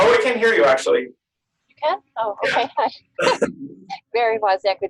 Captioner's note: laughter